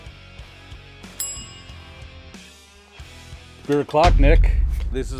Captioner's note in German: fröhliche Rockmusik; Glocke ertönt